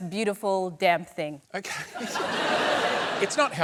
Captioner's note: laughter